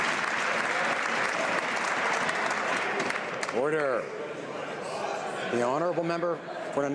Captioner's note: some Applause